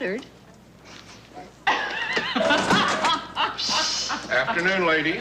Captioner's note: laughter